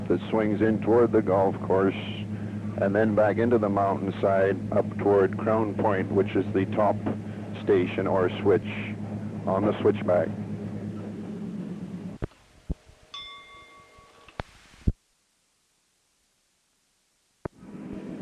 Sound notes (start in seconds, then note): 13.1 bell Sound; 17.8 sound of train moving